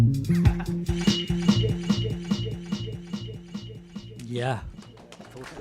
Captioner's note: applause